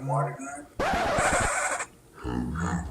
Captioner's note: record scratch